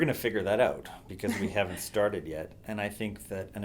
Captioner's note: chuckle